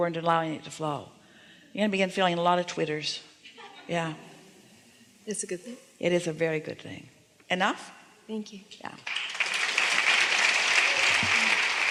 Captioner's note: applause